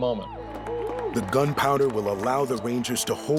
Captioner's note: cheering